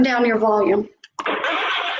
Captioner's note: yelling